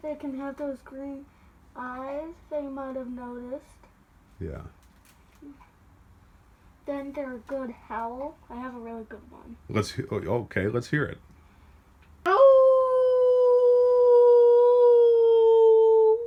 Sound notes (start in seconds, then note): 12.2 lets out an enthusiastic howl